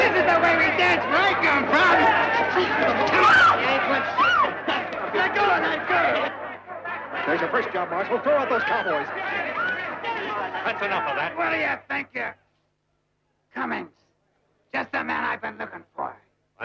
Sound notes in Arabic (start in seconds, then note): 4.2 صرخة سيدة